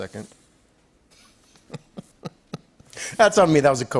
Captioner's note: chuckles